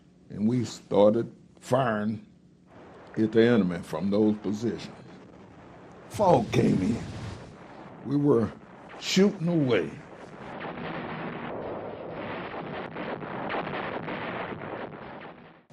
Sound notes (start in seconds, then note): 11.1 artillery firing